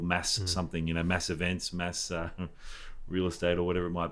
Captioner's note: chuckles